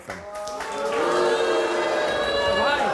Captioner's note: crowd boos